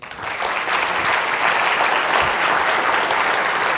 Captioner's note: applause